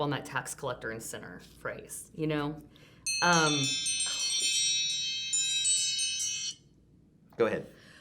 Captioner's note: timer chimes